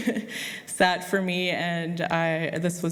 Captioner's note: laughs